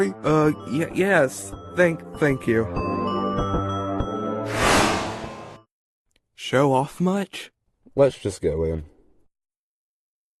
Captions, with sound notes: - Oh-Yea-Yes. Th-thank you. [WOOSH] - Show off much? - Let's just go in.